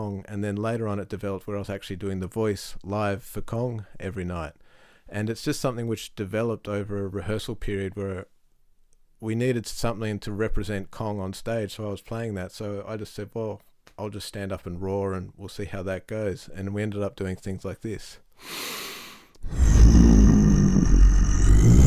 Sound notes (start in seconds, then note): 18.4 inhales deeply; 19.4 roaring